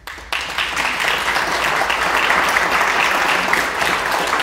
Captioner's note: audience clapping